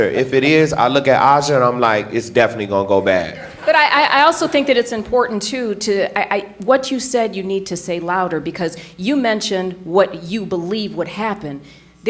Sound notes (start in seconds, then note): 3.2 audience laughing